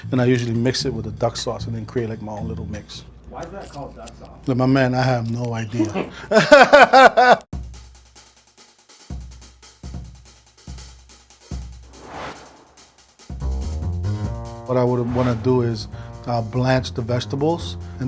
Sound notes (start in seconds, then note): 5.6 laughing; 7.9 jazzy music